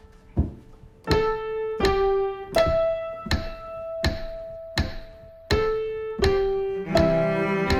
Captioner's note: piano playing; piano keys tapping; metronome clicking; instrumental music